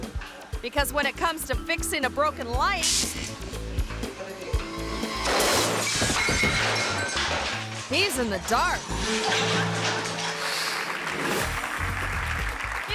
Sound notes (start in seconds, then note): 5.1 light exploding; 10.6 audience applauding